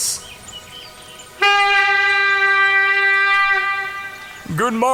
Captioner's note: A hunting horn is blown